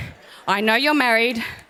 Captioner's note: audience laughs